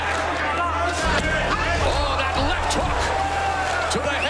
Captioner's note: crowd cheering